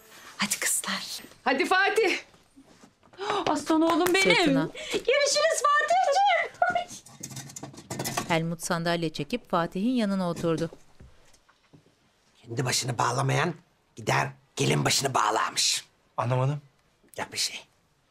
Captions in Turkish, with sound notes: -Hadi kızlar. -Hadi Fatih. -Aslan oğlum benim. -Görüşürüz Fatihciğim. (Sandalye çekme sesi) Kendi başını bağlamayan, gider gelin başını bağlarmış. -Anlamadım? -Yok bir şey.